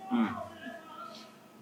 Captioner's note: food-gasm